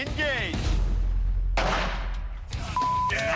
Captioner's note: gunshot